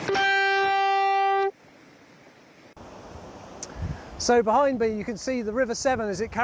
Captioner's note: sound of water flowing